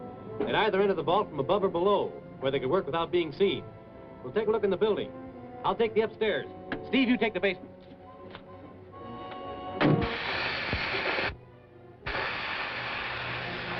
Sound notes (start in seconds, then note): 9.6 torch noise